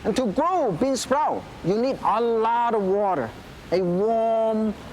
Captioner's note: none